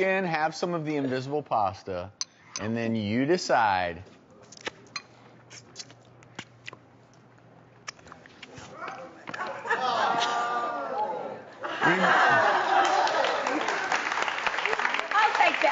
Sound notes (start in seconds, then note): 5.5 lips smacking; 11.8 crowd applauds